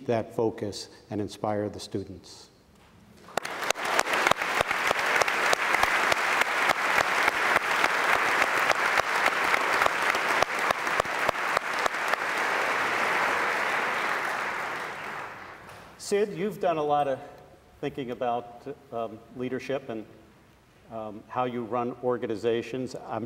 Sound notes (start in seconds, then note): 2.7 audience applauds